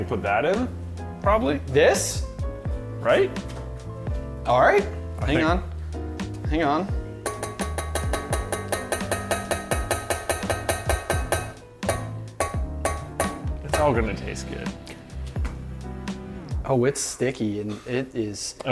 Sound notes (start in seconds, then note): 7.2 tapping